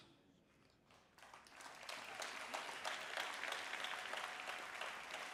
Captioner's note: applause